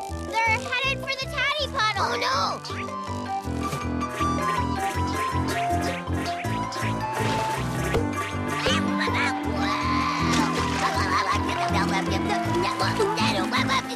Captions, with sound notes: THEY'RE HEADED FOR THE TADDY PUDDLE! OH NO! (BEANS BOUNCE) WH-WH-WHA! WHOA! (STRUGGLES)